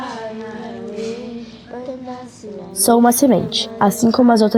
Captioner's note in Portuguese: narração infantil